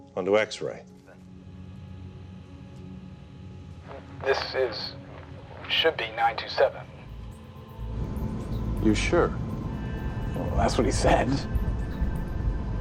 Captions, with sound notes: onto X-ray. (sinister music) (airplane engine roaring) - This, it should be 97. (humming) - You're sure? - Well, that's what he said. (airplane engine roaring)